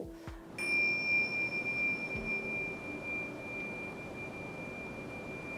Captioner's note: ‘Thing-Sha’ With the sound of the Tibetan bell